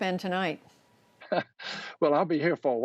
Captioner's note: laughter